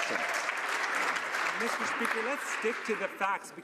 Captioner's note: some Applause